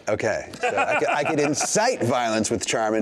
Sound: laughing

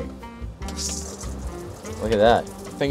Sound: water trickles

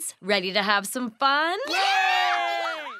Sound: cheering

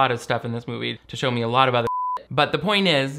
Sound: beep

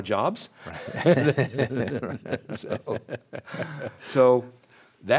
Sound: both laugh

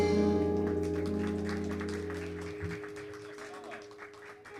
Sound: audience applauding

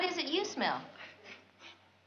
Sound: sniffing

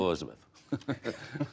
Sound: laughter

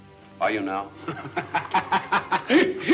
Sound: laughing

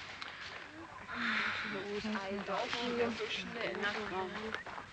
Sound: women talking

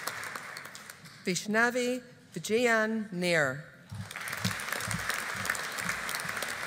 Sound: audience applauding

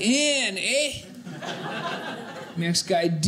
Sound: audience laughing

